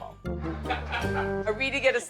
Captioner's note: people laughing